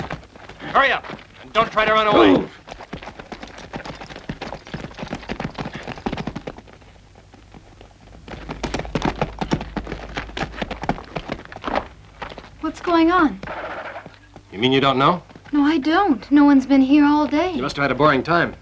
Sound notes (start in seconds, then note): 7.7 horses clattering